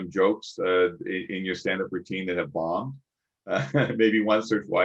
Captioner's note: chuckles